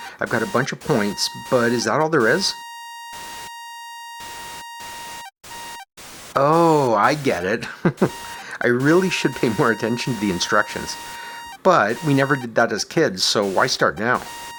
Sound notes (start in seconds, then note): 3.0 long, high-pitched tone; 6.4 chuckles